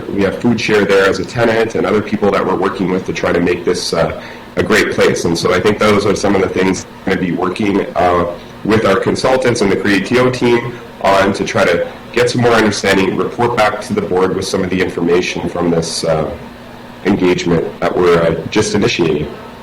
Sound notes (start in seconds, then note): none